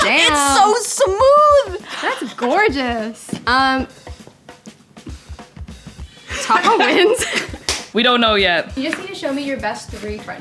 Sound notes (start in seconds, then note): 6.2 laughing